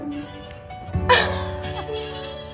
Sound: upbeat music; laughs

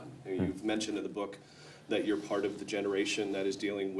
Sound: none

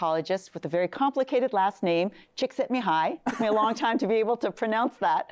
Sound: laughs

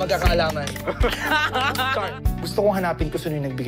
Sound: mela laughs

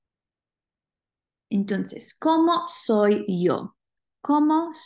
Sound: speaking spanish

